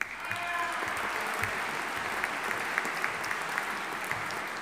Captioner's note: audience applauding